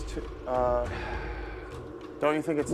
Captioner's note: sighs